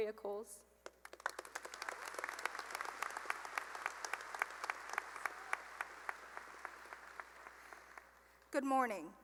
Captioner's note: applause